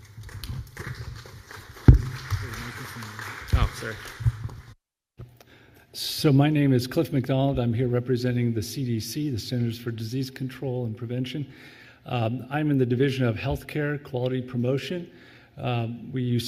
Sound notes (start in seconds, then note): 0.0 applause